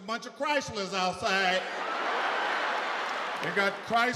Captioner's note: audience laughs